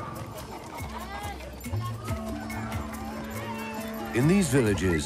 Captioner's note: people chattering